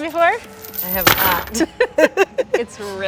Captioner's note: laughs